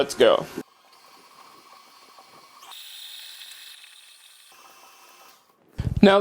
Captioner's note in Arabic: صوت خلاط